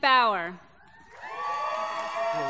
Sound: applause

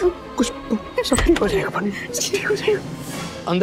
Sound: door opens

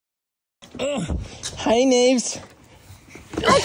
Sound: grunts

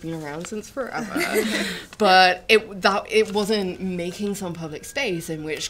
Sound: laughter

